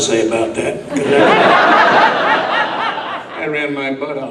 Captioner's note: audience laughs